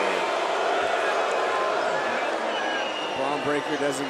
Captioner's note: crowd boos